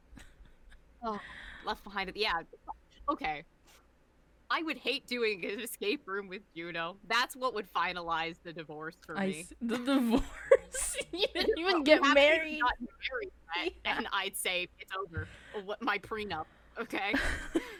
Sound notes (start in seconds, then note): 10.2 laughing; 17.1 both laughing